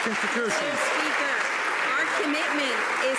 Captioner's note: some Applause